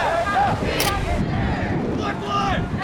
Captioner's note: crowd